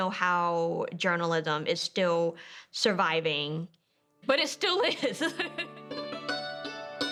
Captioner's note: dulcimer music; chuckles